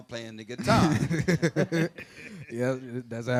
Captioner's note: both laughing